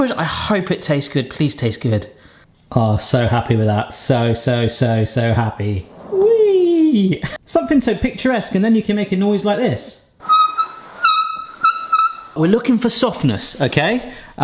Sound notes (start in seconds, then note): 10.2 cake stand squeaking